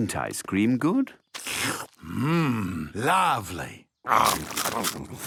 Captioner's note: slurps